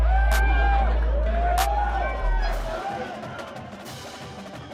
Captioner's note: people cheering